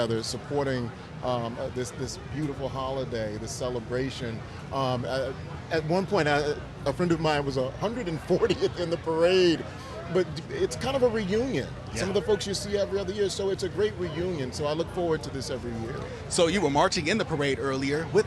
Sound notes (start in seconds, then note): 9.3 laughs